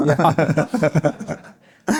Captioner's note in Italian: risate